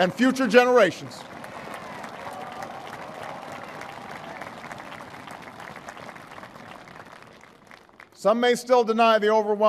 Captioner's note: applause